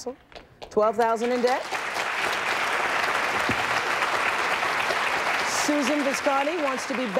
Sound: audience applauding

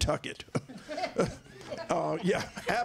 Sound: laughter

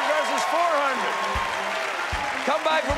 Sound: cheers and applause

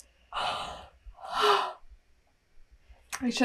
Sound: sighs

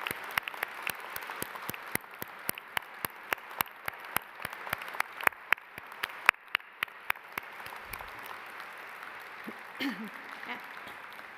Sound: applause

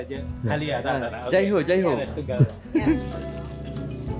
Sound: laugh

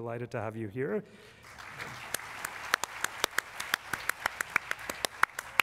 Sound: applause

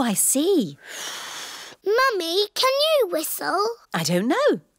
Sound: blows

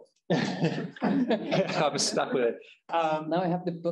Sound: chuckling

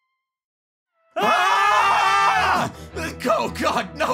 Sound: both scream

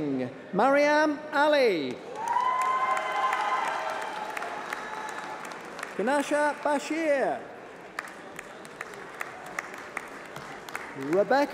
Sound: applause

